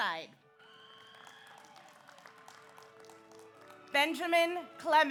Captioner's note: audience applauds; audience cheers